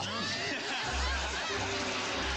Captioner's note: people laughing